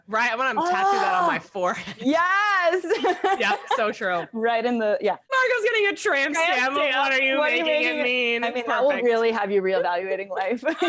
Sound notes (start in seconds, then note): 2.8 laugh